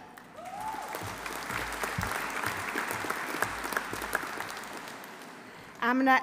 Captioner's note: audience applauding; audience cheering